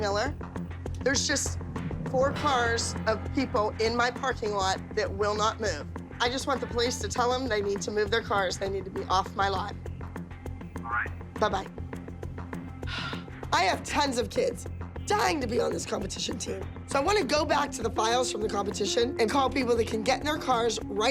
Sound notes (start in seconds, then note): 9.7 on phone; 12.8 sighs